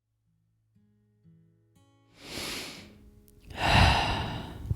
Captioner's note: breathes in real sexy